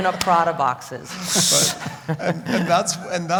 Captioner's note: laugh